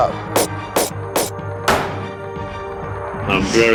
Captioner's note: banging